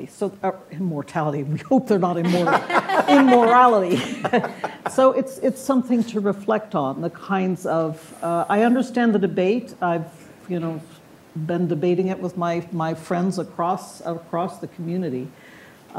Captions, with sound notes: So immortality, we hope they're not immortal. (all laughing) Immorality. So it's something to reflect on, the kinds of, I understand the debate, I've been debating it with my friends across the community,